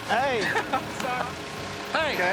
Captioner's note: laughing